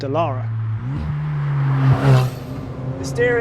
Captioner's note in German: Motor heult auf